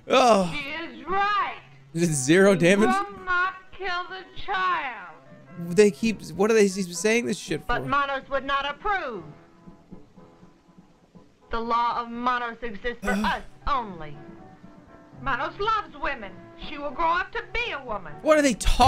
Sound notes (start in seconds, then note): 13.0 sighs